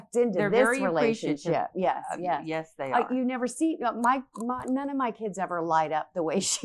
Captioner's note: both chattering